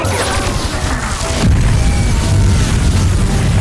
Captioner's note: explosion